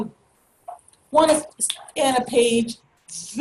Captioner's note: snap